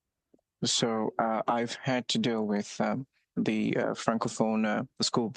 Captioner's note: speaking French